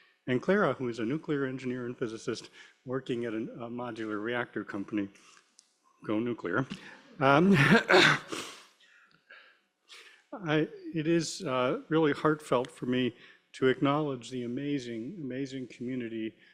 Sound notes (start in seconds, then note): 7.5 laughter